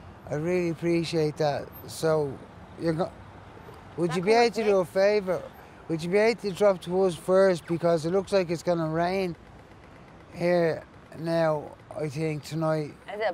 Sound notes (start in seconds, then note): none